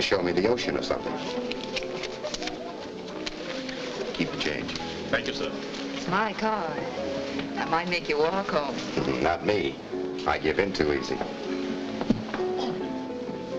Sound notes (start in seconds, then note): 9.3 laughs